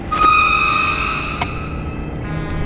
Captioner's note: tires screech